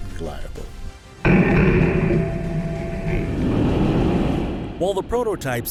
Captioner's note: explosion